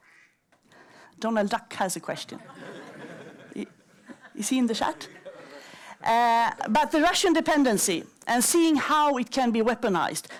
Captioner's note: laughter